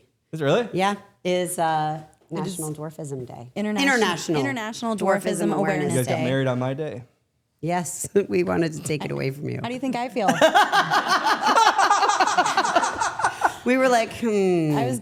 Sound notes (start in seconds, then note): 11.6 coughs